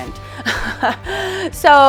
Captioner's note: laughs